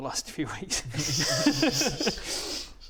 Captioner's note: laughs in nerd